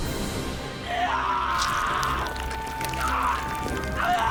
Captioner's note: walter screaming